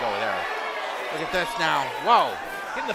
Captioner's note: crowd cheers loudly